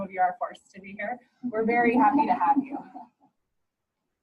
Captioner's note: background laughter